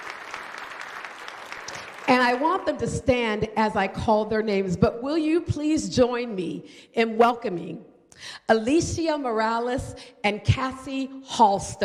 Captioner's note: applause